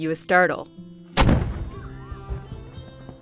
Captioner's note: gunfire